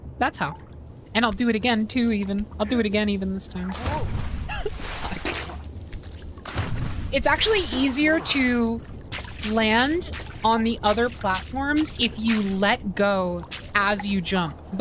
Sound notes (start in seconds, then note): 4.5 laugh